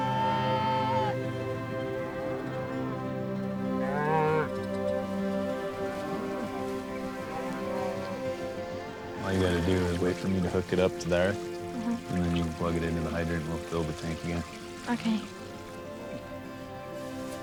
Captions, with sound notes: (cow mooing) - All you gotta do is wait for me to hook it up to there, and then you can plug it into the hydrator and we'll fill the tank again. - Okay.